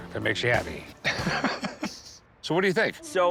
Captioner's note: laughs